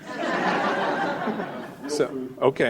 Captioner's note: audience laughing